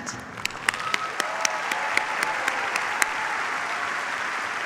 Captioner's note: cheers, applause